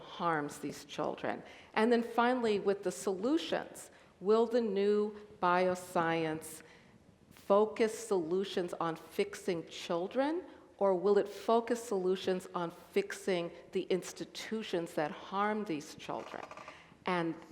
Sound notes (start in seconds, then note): none